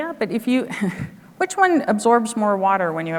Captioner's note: chuckles